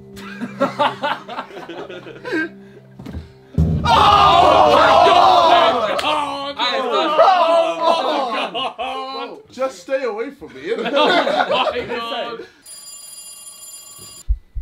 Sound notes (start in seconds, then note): 0.1 all laughing; 3.5 drum beats; 3.8 all screaming; 6.6 all chattering; 10.5 all laughing; 12.6 phone ringing; 14.2 heart beating